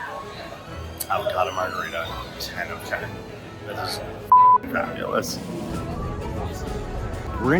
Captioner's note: beep